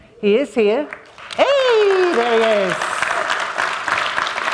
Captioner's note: applause